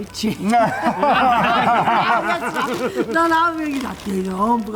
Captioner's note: laughter